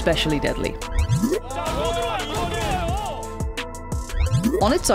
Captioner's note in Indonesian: Penyiar berteriak